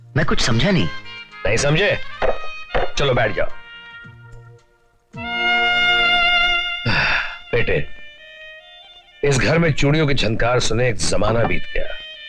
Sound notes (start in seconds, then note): 6.7 sighs